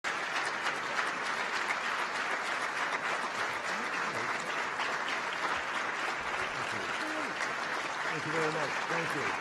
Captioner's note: applause